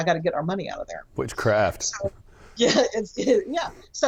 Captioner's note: laughs